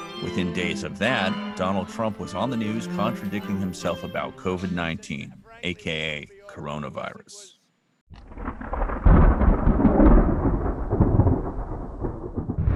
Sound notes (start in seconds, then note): 8.1 thunder crashing